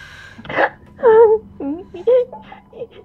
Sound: Tyler gasps

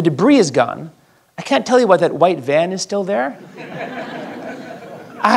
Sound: laghter

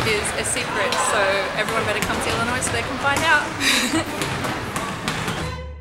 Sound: laughs

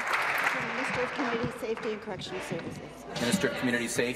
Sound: applause

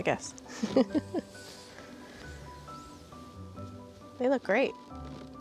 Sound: laughter

